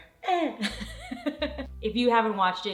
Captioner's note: laughs